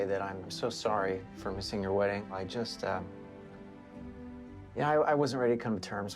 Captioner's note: none